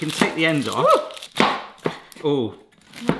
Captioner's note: pizza cutter thumps